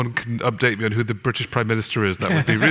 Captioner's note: audience laughter